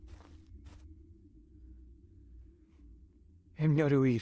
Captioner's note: footsteps in the forest